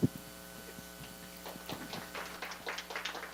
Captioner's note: audience applause